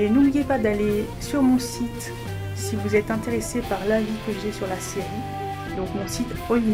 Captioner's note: in french